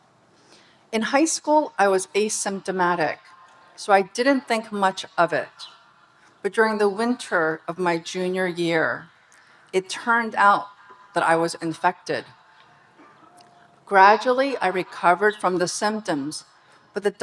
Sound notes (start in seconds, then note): none